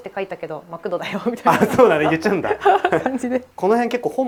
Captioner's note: laughs